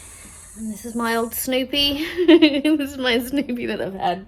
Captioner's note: laughs